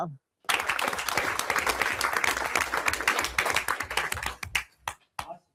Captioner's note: everyone applauds